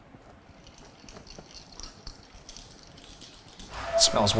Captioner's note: rods rattling